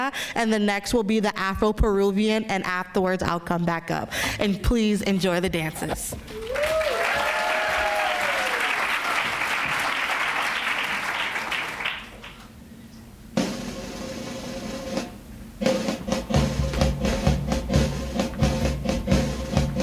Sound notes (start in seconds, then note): 6.2 applause